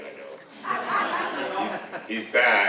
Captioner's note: audience laughing